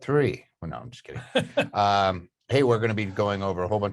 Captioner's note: chuckles